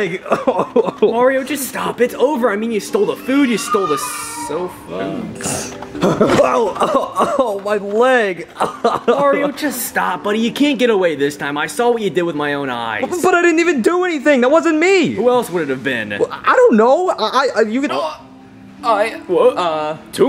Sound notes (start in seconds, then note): 0.1 Mario crying; 5.2 laughing; 6.3 Mario cries out; 8.9 cries